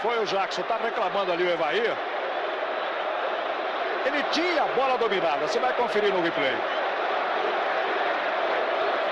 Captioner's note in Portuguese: aplausos